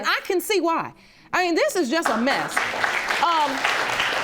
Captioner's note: audience clapping